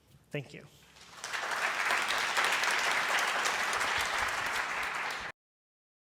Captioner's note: audience applauds